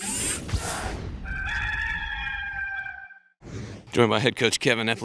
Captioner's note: logo whirs; cockerel caws